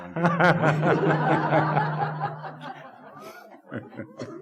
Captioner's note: group laughing